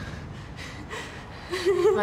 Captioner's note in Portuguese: valentina respirando tensa